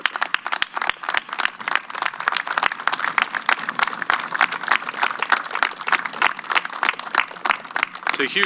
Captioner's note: applause